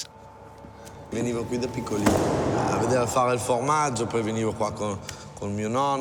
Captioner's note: speaks in foreign language